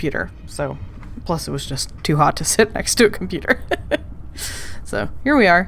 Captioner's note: laughing